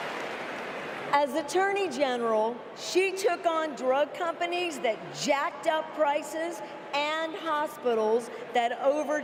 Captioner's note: applause